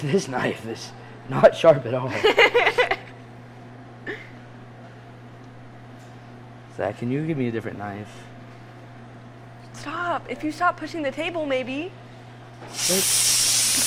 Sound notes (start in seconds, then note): 2.1 laughing